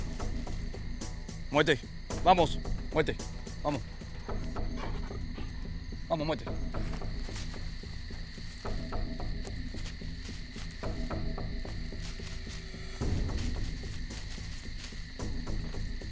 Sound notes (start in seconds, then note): 0.8 speaking in Spanish